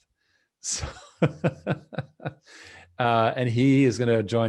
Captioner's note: laughs